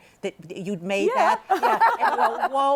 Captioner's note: laughs